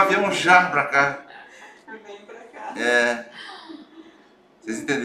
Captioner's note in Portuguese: risos